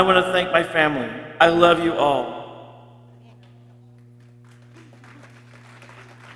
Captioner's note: people clapping